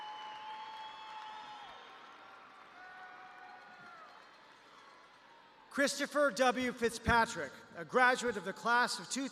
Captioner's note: cheers and applause